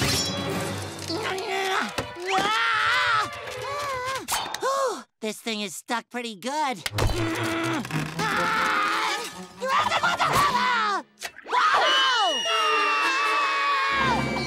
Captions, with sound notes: [grunting] Ooh, this thing is stuck pretty good. [grunting] Whoa! [screaming]